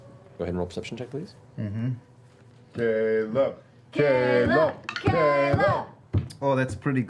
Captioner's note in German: skandieren